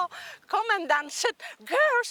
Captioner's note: speaking in foreign language